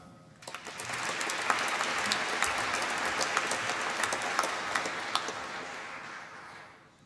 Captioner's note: applause